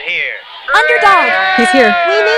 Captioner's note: everyone Cheers